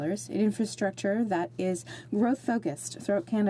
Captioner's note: speaking French